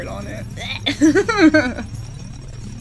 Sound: laughs

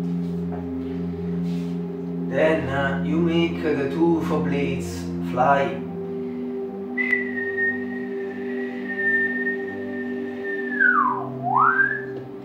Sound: whistle

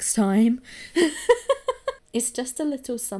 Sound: laughs

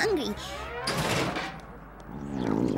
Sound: gurgling

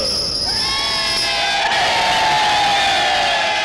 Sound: all Cheering

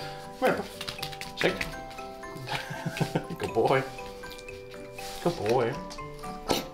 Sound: laugh

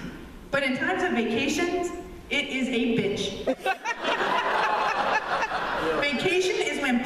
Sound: laughter

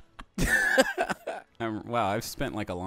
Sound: laughing

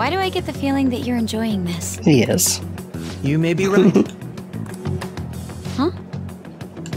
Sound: giggle

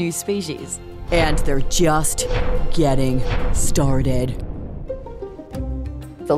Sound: dramatic voice

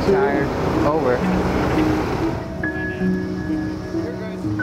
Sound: gentle music; crew murmurs

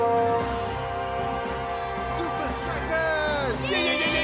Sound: horn blaring; cheering; all cheering

